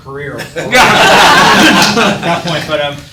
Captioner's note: people laughing